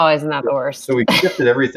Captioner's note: laughs